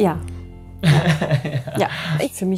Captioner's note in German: Lachen